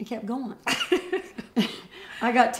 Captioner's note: laughter